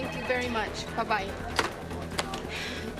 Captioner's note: sighs